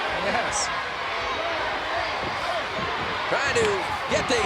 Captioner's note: crowd cheering